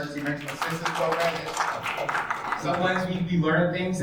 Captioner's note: attendees applauds